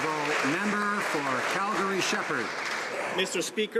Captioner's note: some Applause